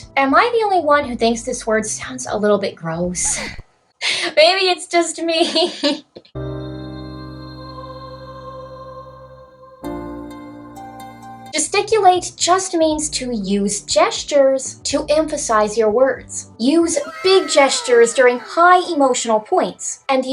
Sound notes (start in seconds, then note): 4.1 chuckles; 5.7 chuckle; 6.4 sad music